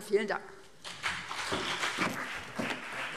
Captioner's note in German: Beifall BÜNDNIS 90/DIE GRÜNEN und CDU